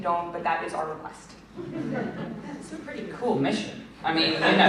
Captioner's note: laughter